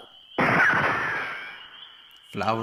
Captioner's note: shot-gun sound